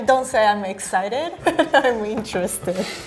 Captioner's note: laughing